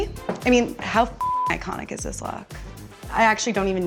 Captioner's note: beep